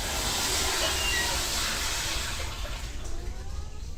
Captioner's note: hinge squeaks